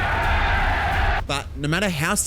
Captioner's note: cheers